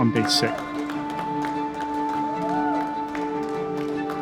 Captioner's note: group cheering